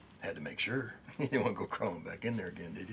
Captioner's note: chuckles